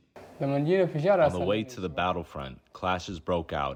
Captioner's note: through translator